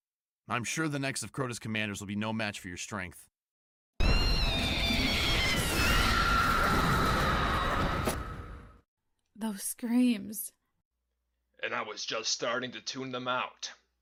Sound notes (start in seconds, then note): 4.0 high-pitched scream